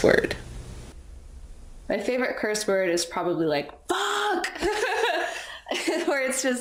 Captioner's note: laughs